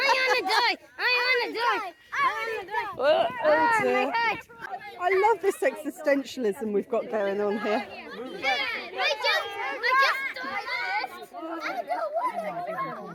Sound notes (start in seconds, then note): 7.9 children shouting and screaming